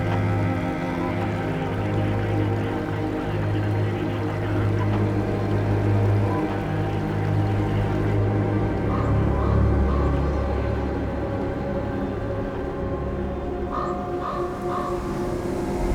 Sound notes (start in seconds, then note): 8.2 soft suspenseful music; 9.0 crow cawing; 13.7 crow cawing